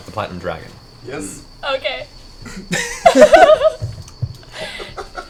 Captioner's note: giggles